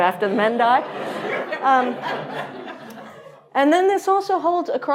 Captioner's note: audience laughing